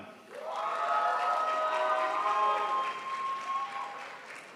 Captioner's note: crowd applauds